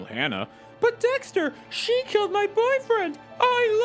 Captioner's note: high voice